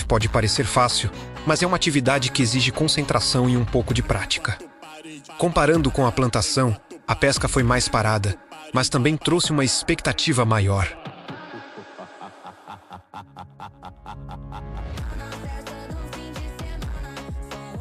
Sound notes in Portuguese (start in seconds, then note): 15.0 risadas